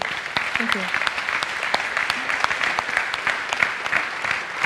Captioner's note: audience applauds